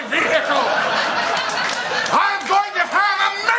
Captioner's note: laughter